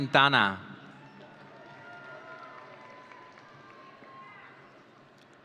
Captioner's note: audience cheering